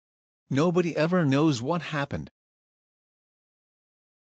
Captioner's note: voiceover